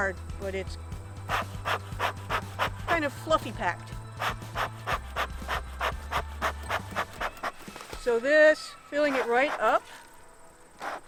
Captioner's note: puffing